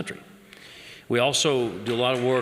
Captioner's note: applause